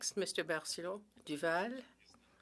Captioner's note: speaking French